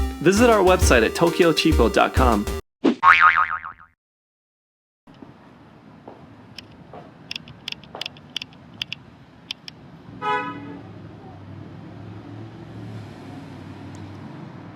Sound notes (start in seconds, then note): 3.0 spring boings; 5.3 woods thudding; 10.2 horn honks